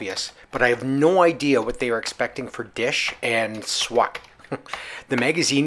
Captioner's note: chuckle